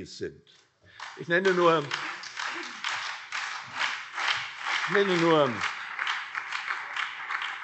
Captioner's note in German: Beifall CDU, SPD, BÜNDNIS 90/DIE GRÜNEN und Freie Demokraten